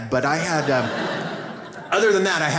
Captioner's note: audience laughs